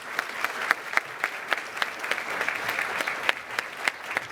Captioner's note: cheers and applause